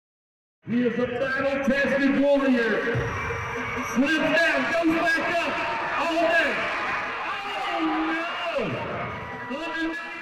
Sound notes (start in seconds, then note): 0.7 rodeo announcer voice